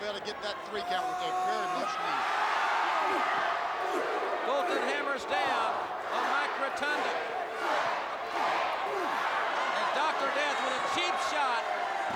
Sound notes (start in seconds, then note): 4.5 crowd cheering